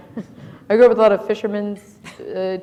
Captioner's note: laughter